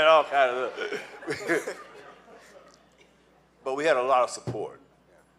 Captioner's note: laughing